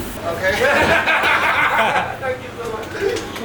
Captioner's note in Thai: เสียงหัวเราะ